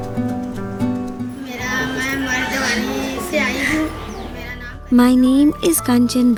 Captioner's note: is speaking in foreign language